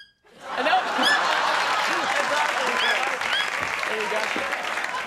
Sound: audience applauding

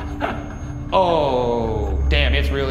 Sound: laughs

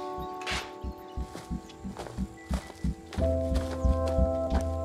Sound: gravel crunching

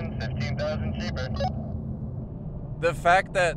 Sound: beep

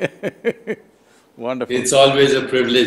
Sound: laughs

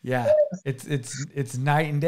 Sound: laughing

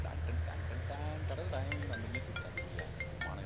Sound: phone Rings

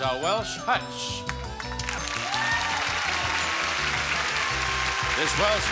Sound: audience cheering

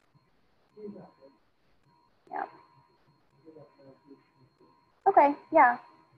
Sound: student speaking faintly

